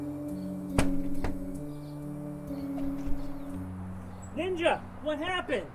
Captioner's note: knocking on door